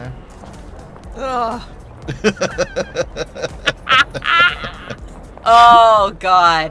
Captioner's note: groans; laugh